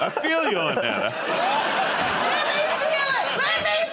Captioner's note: laughter